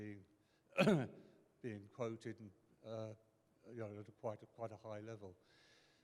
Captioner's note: clears throat